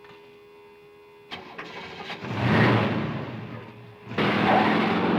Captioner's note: car engine roaring